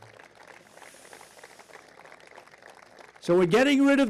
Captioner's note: applause